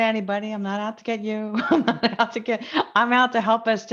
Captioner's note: laughs